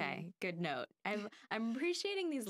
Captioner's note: laughing